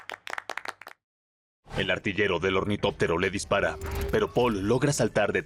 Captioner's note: aplausos